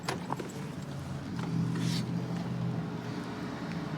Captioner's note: distant traffic hum